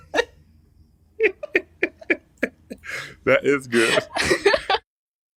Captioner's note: laughter